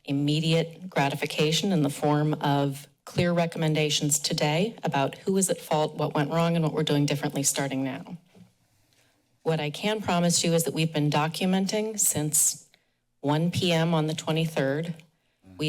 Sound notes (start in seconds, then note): 8.3 pause